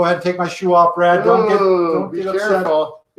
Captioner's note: groans